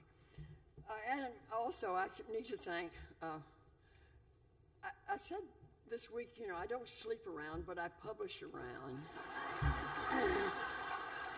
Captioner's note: laughter